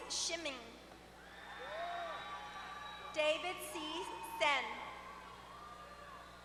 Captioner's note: applause